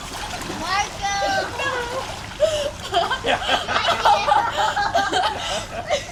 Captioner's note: laughter